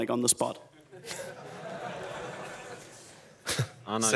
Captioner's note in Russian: смех